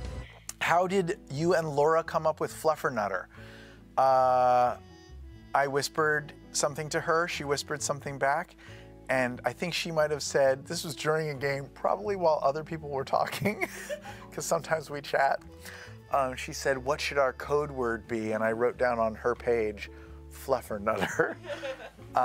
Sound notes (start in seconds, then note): 13.6 laughing